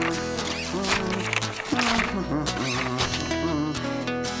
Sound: humming

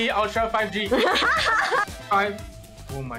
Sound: laughs

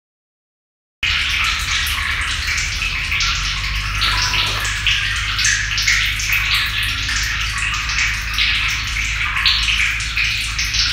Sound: sound of water drop

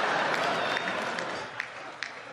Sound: laughter

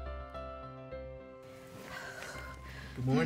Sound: exhales

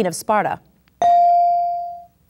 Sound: ding

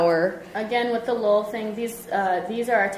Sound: voiceover

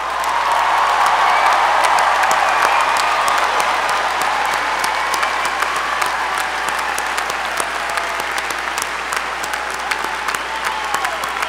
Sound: applause

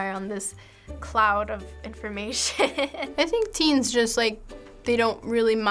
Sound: chuckles

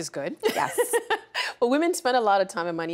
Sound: laughing

